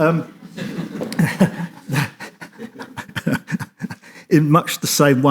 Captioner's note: audience laughs